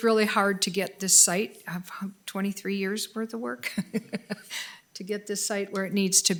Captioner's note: laughs